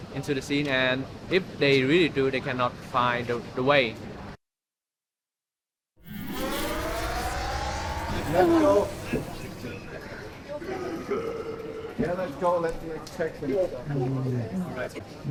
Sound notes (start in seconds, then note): 6.0 generator starting